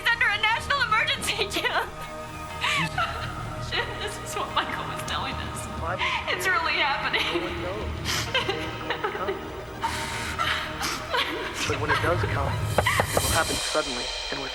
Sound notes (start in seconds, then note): 8.7 crying; 12.7 knocking